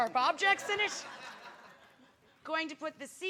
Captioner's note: audience laughing